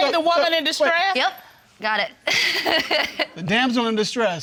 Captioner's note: laughs